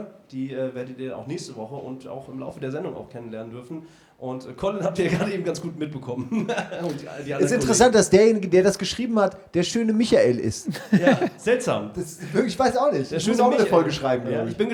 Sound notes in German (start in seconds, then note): 10.5 lacht